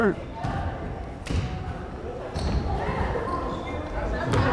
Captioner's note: crowd chattering